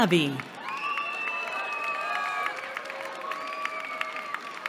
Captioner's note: cheering